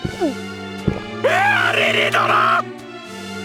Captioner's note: shriek